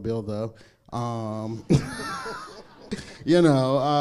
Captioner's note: crowd laughs